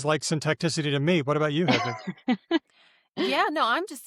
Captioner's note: laughs